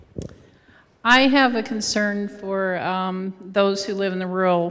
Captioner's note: voiceover